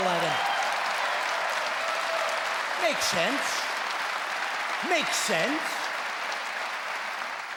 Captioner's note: cheering and clapping